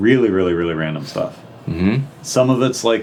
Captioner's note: none